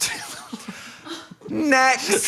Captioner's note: laughs